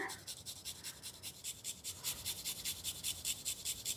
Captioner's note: ginger grating